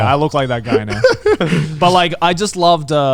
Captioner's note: laughing